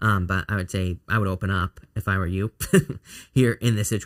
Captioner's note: chuckles